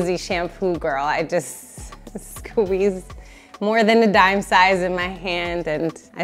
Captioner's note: chuckles